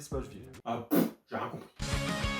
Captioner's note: mouth fart